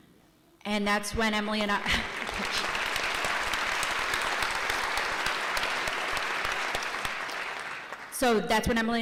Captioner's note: applause